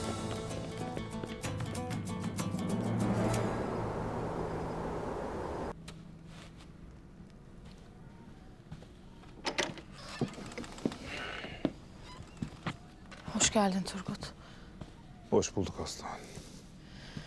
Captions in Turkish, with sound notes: (Rüzgâr sesi) (Ateş çıtırtı sesi) (Ayak sesi) (Kapı açılma sesleri) (Kapı gıcırdama sesleri) (Kapı gıcırdama sesi) (Kapı kapanma sesi) Hoş geldin Turgut. Hoş bulduk Aslıhan.